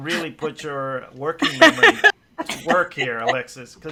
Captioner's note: laughs